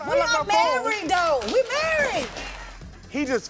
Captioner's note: audience applauding